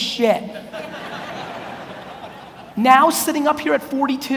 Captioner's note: audience laughs